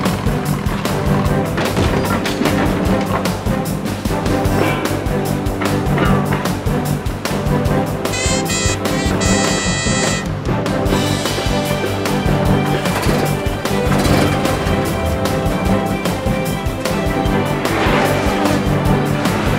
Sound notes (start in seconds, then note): 4.1 metal clanging; 8.1 car horn; 17.3 cars passing